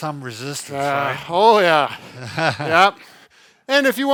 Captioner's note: chuckles